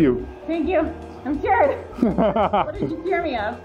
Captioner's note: laughs